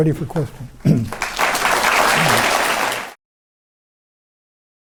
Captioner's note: applause